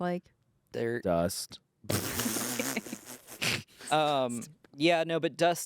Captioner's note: everyone laughs